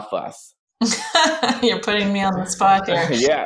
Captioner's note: laughs